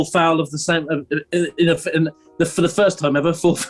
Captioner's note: stammers